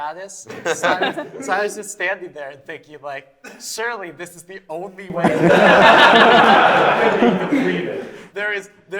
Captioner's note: laughter